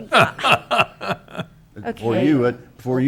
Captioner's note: chuckles